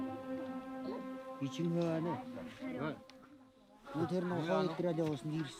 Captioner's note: foreign spoken audio